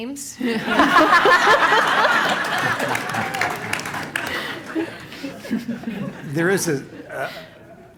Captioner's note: laugh